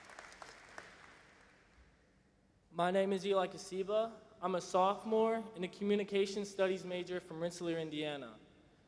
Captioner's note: applause